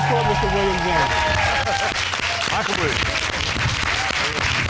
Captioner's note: audience cheering, applauding